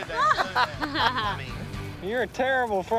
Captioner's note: group laughing